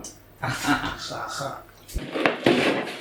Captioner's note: cackling